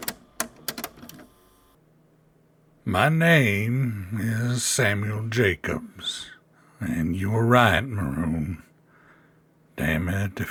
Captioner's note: tape recorder sounds